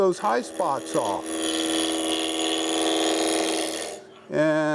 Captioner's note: machine roaring